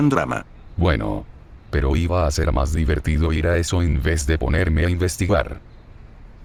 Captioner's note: whispers